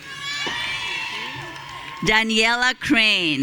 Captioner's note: audience cheering